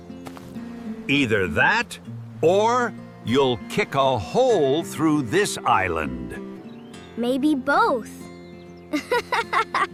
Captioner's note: laughter